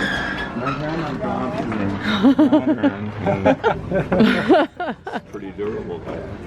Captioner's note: laughter